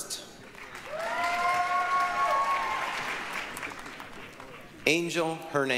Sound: applause, cheering

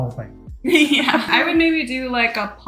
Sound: chuckles softly

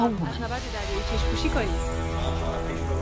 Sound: Artemisia speaking in foreign language; tense orchestral music

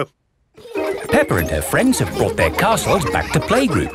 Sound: children laughing

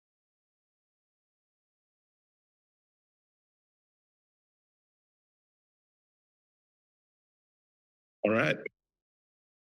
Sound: silence

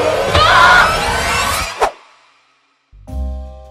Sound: creepy, suspenseful music; screaming

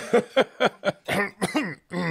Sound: choking sounds

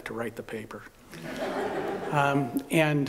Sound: laughter

